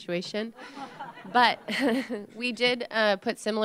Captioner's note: laughter